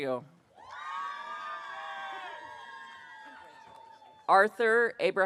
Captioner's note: audience cheering